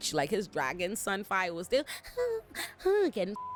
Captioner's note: whimpers; beep